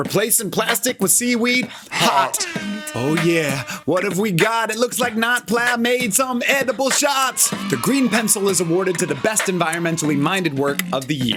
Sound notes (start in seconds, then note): 1.8 air horns blare; 7.7 comic cheering